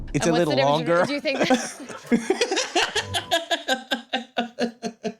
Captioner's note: laughter